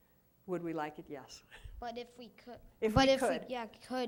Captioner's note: laughs